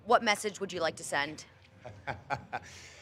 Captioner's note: laugh